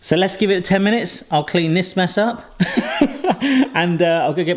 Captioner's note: laughs